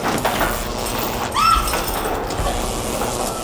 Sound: screams; grunts

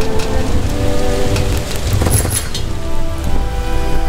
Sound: chains clank

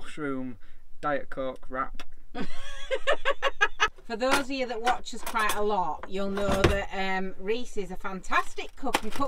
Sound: laughing

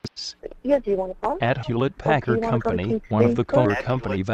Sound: voiceover

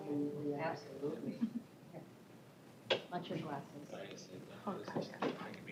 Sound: indistinct chatter

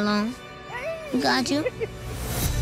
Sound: laughs

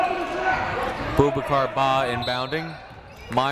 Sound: shouting

